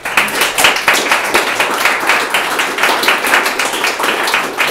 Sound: audience applause

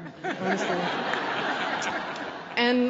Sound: laughter

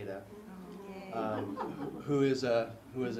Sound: laugh

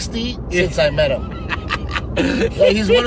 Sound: laughing

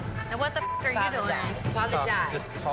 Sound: beep

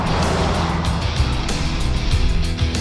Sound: truck whooshing

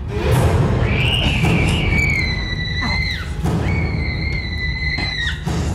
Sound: moves into suspenseful music; woman screaming

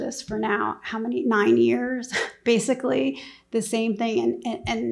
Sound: scoffs

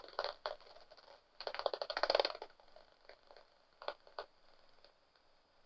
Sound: sound of echolocation clicks from a bat detector

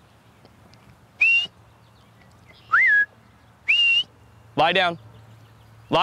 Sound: whistle

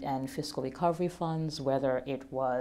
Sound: none

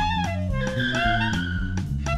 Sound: screech

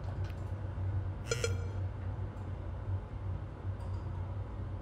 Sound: phone beep

